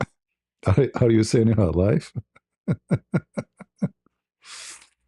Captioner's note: ketawa